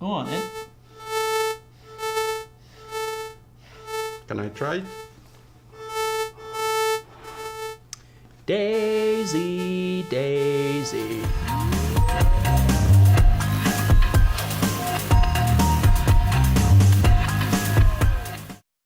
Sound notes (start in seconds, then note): 0.0 beeping; 5.7 beeping; 11.5 upbeat music